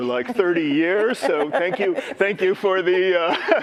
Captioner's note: laughter